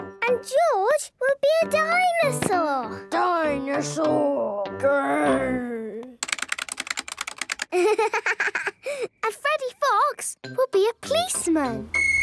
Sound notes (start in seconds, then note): 6.1 keyboard clicking